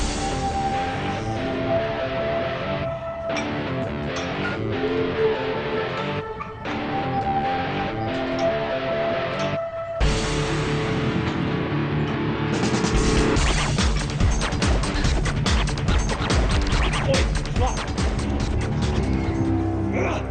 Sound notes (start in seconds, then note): 0.1 intense rock music; 4.1 weights clink; 10.1 upbeat rock music